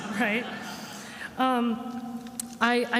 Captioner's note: attendees laughing